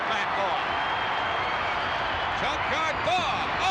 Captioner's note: crowd cheering